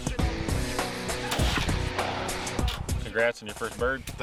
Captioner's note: gun fires